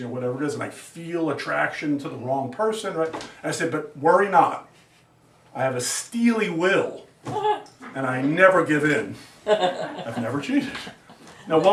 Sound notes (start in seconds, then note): 9.4 student laughs; 9.5 students laugh